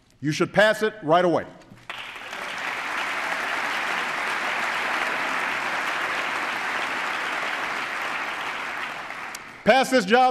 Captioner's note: applause